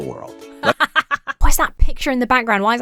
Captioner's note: laughs